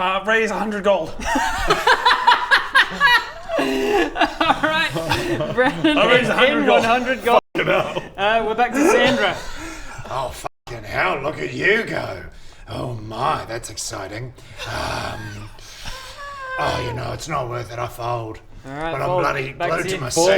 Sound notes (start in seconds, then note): 1.1 reckless laughter